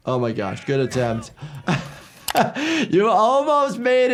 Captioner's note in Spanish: se ríe